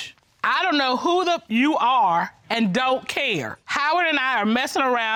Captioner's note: judge dana reading